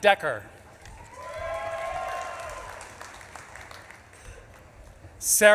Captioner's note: audience claps and cheers